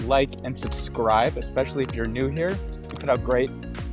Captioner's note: button clicks